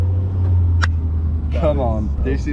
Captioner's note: hands slapping